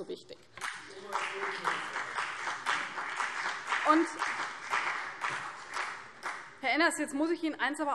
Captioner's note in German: Beifall CDU und BÜNDNIS 90/DIE GRÜNEN